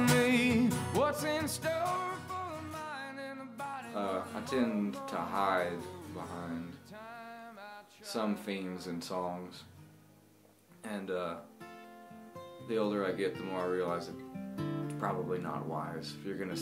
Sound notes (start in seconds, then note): 5.0 speaks